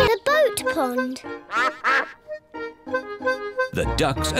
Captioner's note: duck quacks